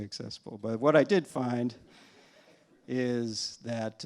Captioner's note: laughter